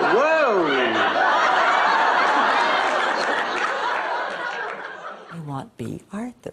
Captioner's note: laughs